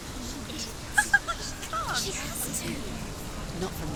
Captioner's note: laughs